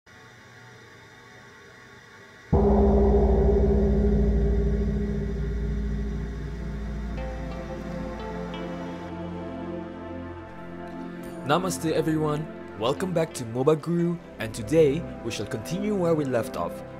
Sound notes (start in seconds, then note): 2.5 gong sound